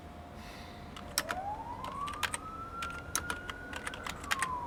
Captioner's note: siren wails in distance